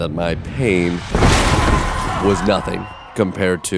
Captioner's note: table smashing